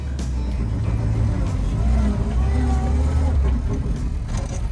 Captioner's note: engine whirring